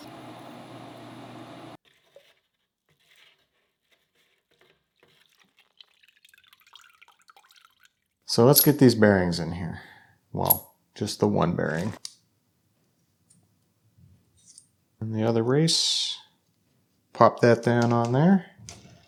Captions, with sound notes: (sieve clinking) (liquid trickling) So let's get these bearings in here. Well, just the one bearing, and the other race. Pop that down on there.